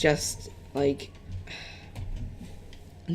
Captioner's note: sighs